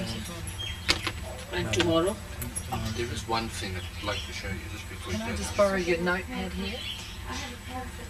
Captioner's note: conversing